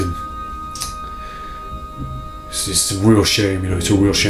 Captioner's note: lips smacking